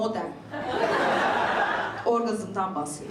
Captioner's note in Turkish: İzleyiciler gülüyor